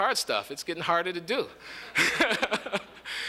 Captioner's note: laughter